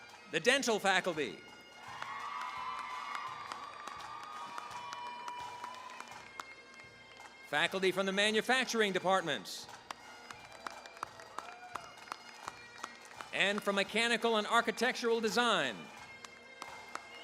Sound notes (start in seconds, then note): 0.0 applause; 1.6 cheering, applause; 10.4 applause